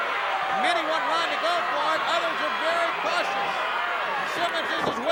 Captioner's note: audience drowning out announcer